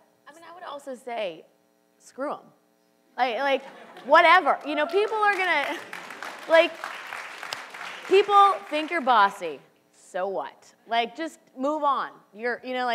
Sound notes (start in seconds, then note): 6.5 audience laughs and cheers